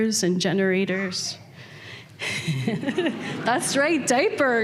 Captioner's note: laughter